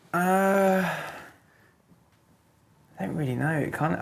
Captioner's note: sighing